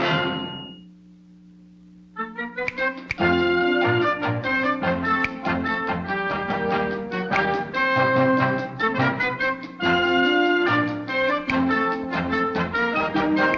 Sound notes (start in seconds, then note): 2.9 finger snapping; 2.9 jaunty upbeat music